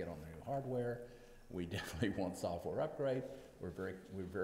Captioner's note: laughs